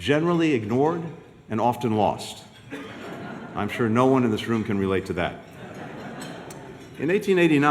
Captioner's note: laughter